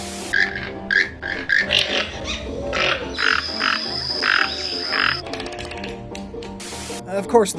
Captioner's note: toucan sounds